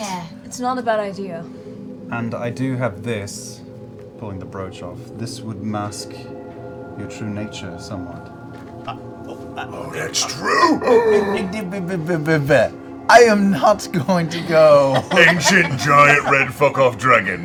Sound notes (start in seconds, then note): 8.8 gasps; 12.0 stuttering